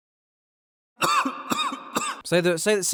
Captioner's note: louder cough